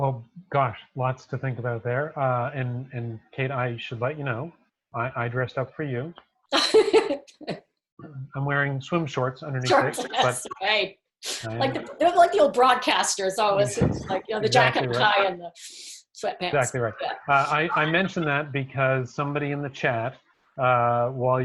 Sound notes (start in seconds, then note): 6.6 laughing